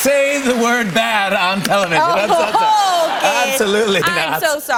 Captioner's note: light laughter